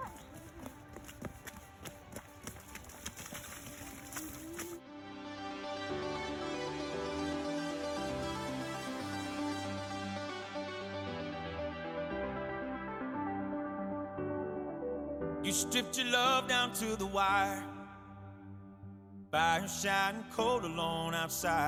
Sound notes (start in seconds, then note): 2.3 upbeat music plays; 2.8 splash